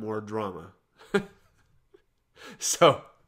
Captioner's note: chuckles